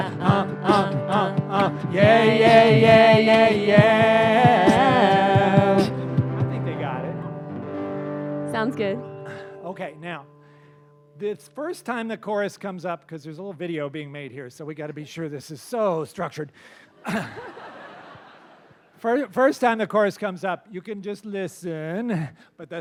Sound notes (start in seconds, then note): 17.0 laughter